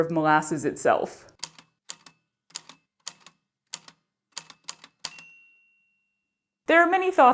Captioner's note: A typewriter clicks away, then dings